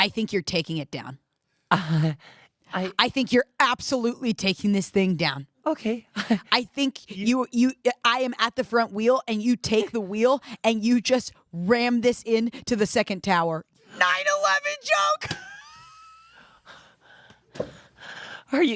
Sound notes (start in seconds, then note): 1.8 confused noises; 15.2 laughter